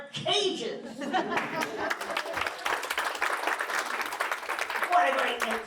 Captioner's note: applause and laughter